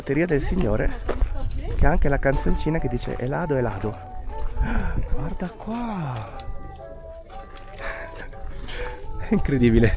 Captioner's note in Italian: sospiri